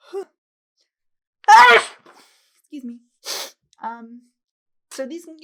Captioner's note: sneezes